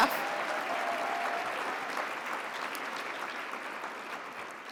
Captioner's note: audience applauds